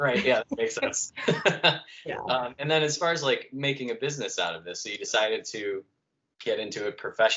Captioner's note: laughter